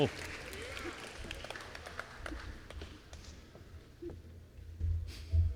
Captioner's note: applause